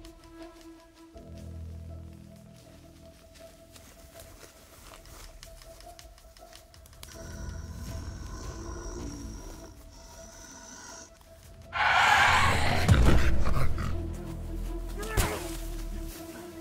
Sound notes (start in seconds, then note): 7.3 growling; 12.3 aggressive growl